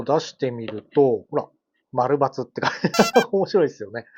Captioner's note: laughs